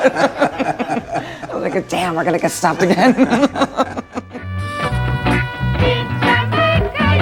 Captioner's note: laughs